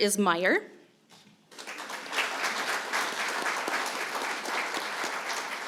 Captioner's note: applause